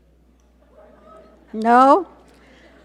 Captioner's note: audience laugh